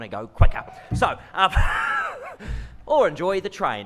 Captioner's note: laughs